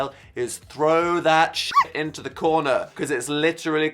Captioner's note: dog barks